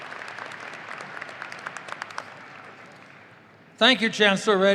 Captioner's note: audience applauding and cheering